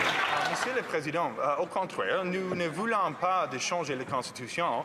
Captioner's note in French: applaudissements